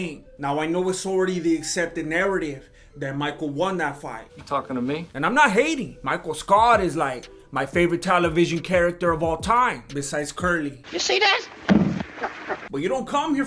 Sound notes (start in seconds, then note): 11.6 curly > shemp noises